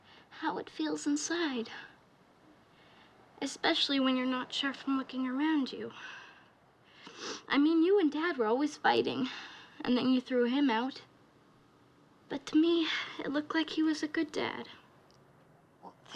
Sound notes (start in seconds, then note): 7.0 sniffles